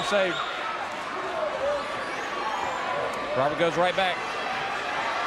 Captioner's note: crowd chatter